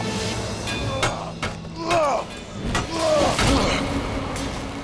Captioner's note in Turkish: Dövüşme sesleri